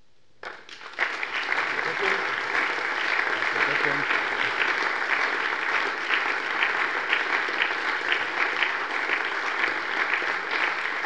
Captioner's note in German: Allgemeiner Beifall